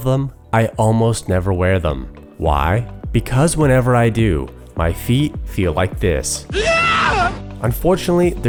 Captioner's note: screaming